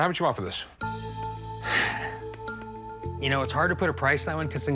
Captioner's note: sighs